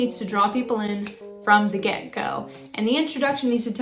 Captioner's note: snap